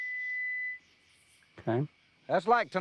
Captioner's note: tone stops